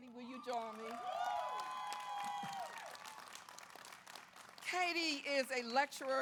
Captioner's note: audience applauds; audience cheers